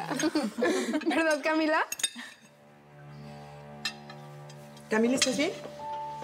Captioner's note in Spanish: risas